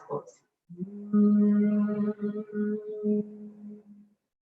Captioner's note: humming